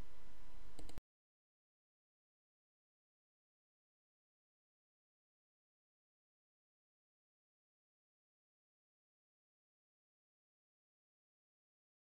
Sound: silence

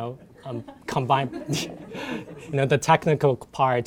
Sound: laughter

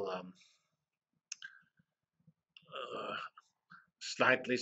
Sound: pause

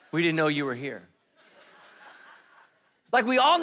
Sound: congregation laughing

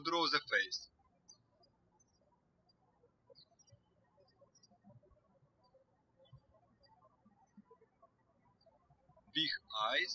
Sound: birds chirping

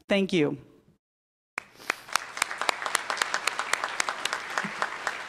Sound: applause

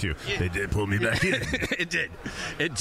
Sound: imitating gangster voice; laughing

